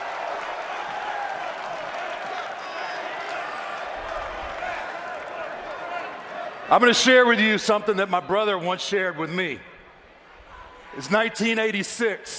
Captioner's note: cheers and applause